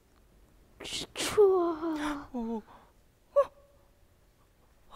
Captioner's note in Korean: 신음소리